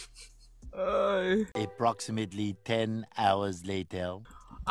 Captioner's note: confused and stressed noises